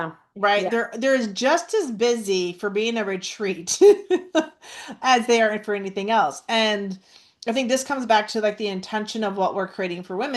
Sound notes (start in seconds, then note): 3.8 laughs